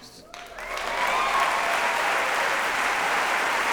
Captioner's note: applause